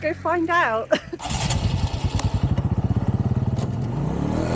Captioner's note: engine starting